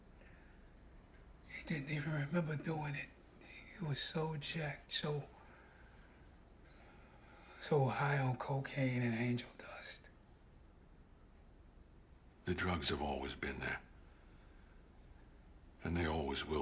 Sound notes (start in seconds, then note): none